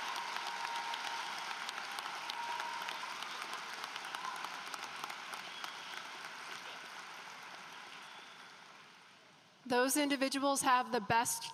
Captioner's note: applause